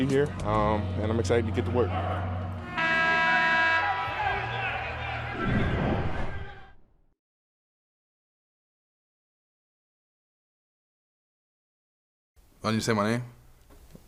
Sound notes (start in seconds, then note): 2.5 horn blows; 3.9 shouting